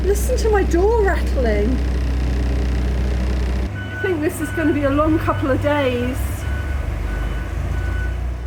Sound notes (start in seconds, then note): 2.1 door rattling